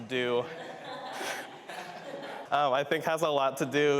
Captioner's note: participants laugh